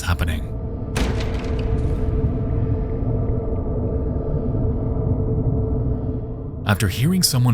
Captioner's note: eerie music; fist banging